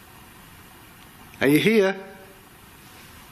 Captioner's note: none